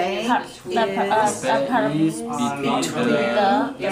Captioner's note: voiceover